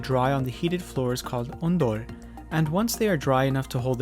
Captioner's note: speaking in Korean language